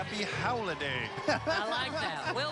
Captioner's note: laughing